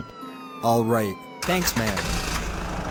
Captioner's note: engine starting